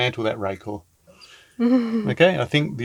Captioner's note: chuckling